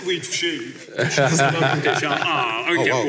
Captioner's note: laughs